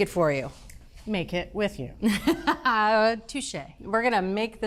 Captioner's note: laughs